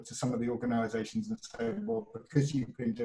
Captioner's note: audio glitches